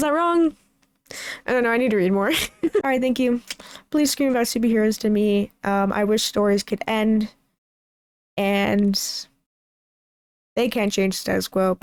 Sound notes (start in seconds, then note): 2.3 laughs